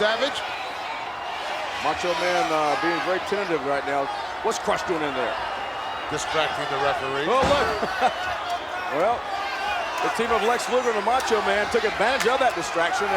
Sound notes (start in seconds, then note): 7.6 laugh